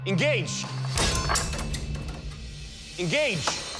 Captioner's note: crashing